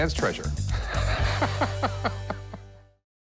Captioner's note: laughs